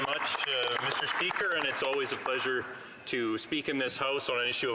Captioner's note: some Applause